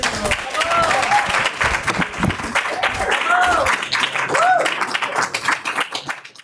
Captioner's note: audience cheering; audience applauding